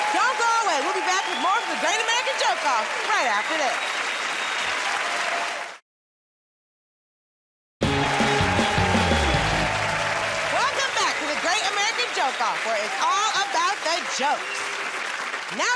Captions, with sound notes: Don't go away. We'll be back with more of "The Great American Joke Off" right after this. [ Cheers and applause ] [ Cheers and applause ] Welcome back to "The Great American Joke Off", where it's all about the jokes.